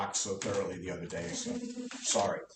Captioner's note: laughter